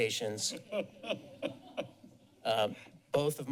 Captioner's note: laughter